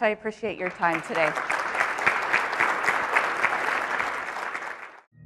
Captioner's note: audience applauding